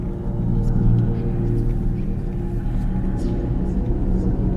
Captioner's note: voices echo